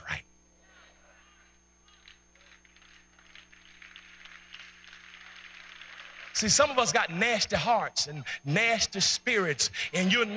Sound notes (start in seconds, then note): 2.4 clapping